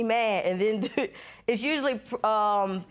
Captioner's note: laughs